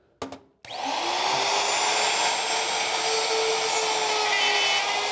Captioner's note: router buzzes loudly